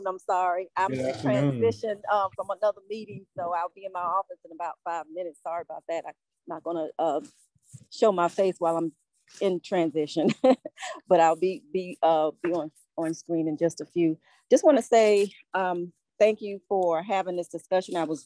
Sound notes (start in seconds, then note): 10.3 laughing